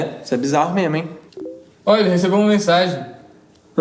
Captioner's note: notification